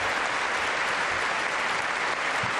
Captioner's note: applause